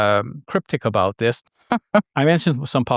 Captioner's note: chuckling